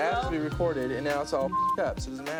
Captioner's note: beep